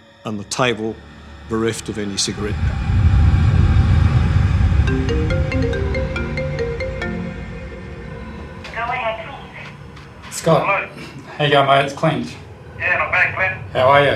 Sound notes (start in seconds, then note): 5.0 phone ringing